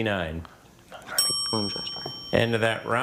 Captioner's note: timer dings